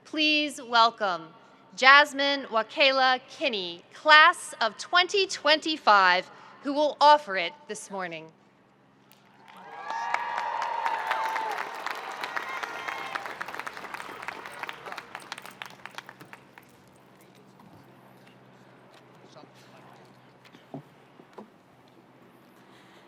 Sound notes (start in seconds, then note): 9.2 audience cheering and applauding